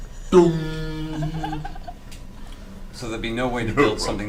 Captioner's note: metal clanging